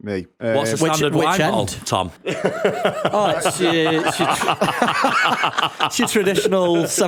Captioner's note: laughter